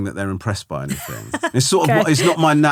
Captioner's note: laughing